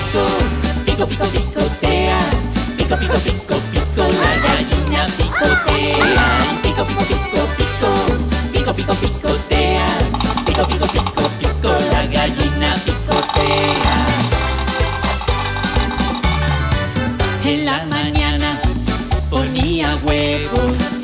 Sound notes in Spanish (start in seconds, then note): 4.0 Cacareo; 10.1 Sonido Pájaro carpintero; 14.2 Música alegre